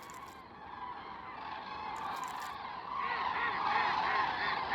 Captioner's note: cranes cawing